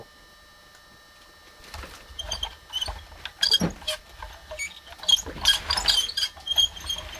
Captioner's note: wheels squeak